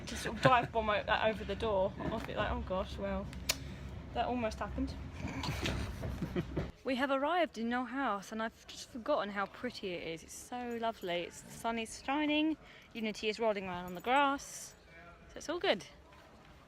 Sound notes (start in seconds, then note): 5.3 both laugh